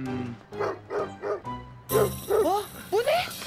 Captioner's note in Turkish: Köpek havlıyor